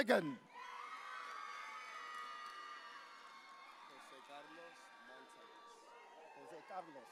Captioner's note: audience cheering